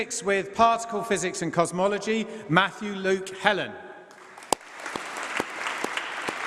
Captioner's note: applause